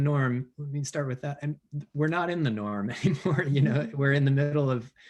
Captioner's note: laughs